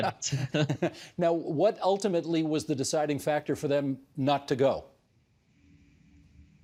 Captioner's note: laughter